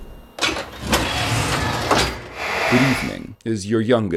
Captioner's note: loud footsteps clicking; metal sliding